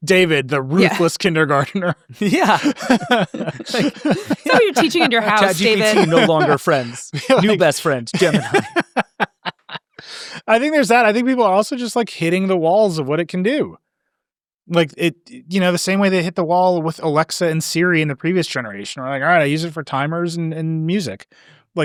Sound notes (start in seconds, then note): 1.8 chuckles; 9.8 laughs